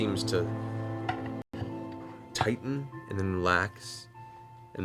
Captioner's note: none